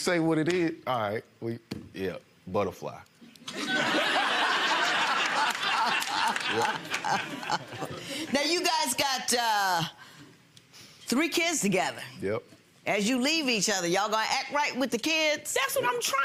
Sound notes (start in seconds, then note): 3.5 audience laughs; 5.4 Lynn laughs